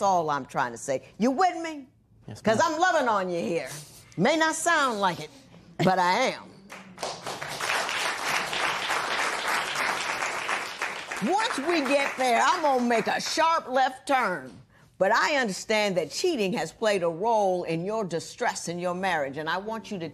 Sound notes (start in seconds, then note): 6.7 applause